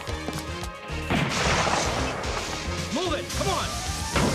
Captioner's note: gun firing